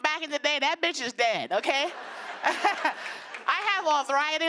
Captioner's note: laughter